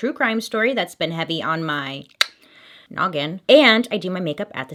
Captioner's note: tongue clicking